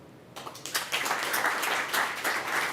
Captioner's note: applause